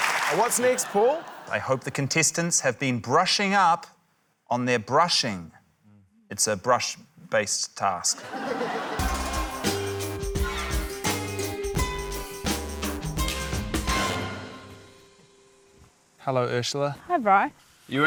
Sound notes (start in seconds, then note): 8.1 laughter; 8.4 quirky music